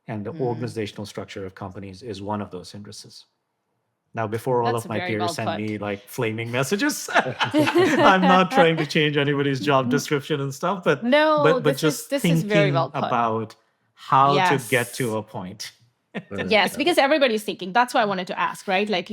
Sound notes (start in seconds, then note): 6.1 all laughing; 16.2 speaking faintly